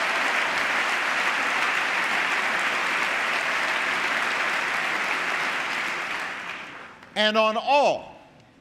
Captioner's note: applause